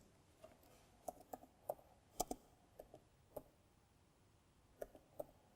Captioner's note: keyboard clicking